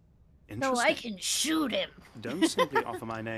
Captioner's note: hahaha!